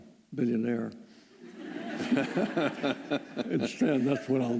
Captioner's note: laughter